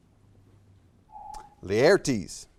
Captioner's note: alarm echoes